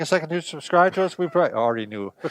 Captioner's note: both chuckling